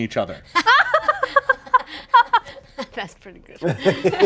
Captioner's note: group laughing